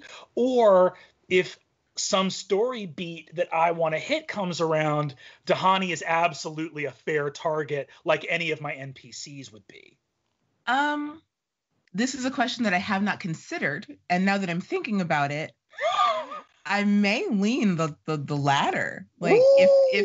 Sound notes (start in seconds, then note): 15.8 laughing